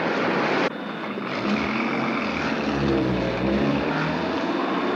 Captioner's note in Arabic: صافرة الشرطة; هدير المحرك